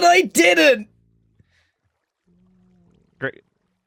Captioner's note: non-judgmental silence